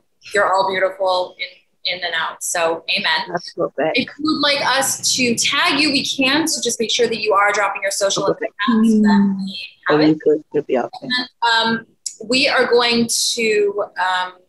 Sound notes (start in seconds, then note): 8.5 faintly speaking